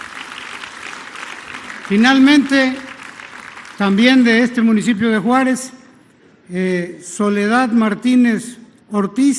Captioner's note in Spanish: aplausos